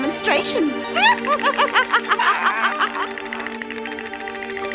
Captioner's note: cackling